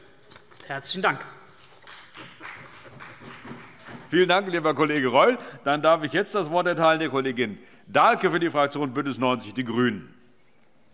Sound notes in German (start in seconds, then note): 1.6 Vereinzelter Beifall CDU